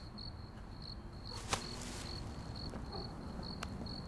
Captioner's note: plastic rustling; footsteps plodding; soft tense music